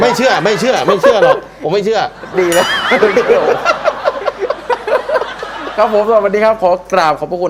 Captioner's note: laughing